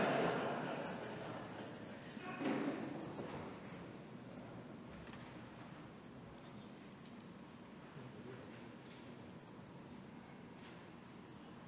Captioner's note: laughter